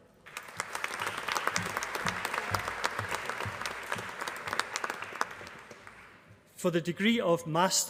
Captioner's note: applause